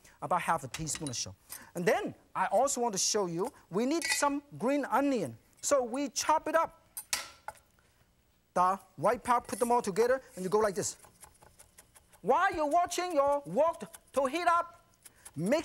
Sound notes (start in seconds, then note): 6.9 tapping